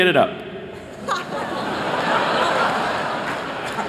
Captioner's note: laughter